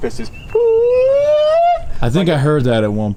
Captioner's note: imitating barred owl